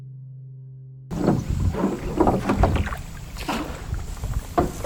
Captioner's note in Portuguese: sons de barco de alumínio na água